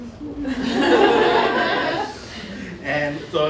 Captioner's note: laughter